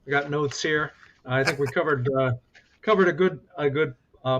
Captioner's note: laughs